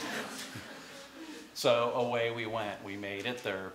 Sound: laughter

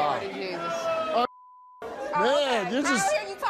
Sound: beep

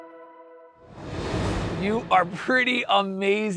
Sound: graphics whooshing

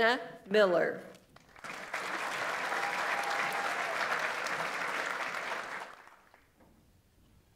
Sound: audience applauds; audience member cheers

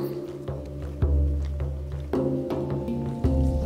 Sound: footsteps

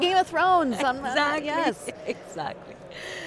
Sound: laughs

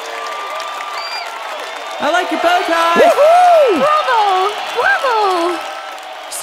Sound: cheering and applauding

